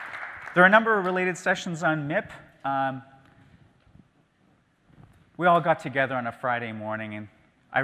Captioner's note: applause